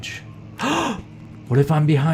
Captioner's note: gasps